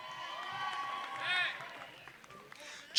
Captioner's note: applause